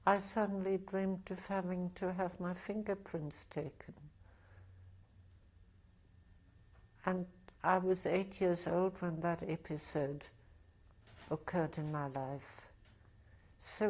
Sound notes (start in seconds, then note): 4.3 pauses for 3 seconds